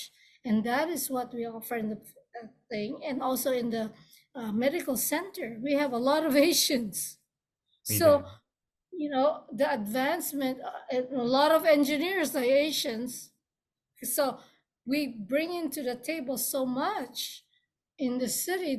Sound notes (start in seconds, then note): 7.9 laughs